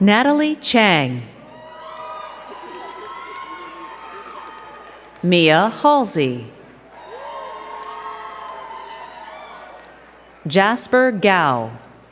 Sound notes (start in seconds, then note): 2.2 crowd cheering; 7.3 crowd cheering and clapping